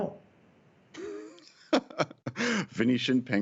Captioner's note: laughter